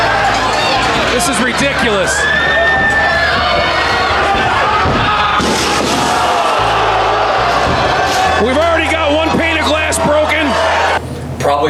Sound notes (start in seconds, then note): 0.1 crowd cheering; 5.8 gate crashing